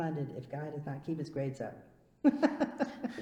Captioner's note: laughs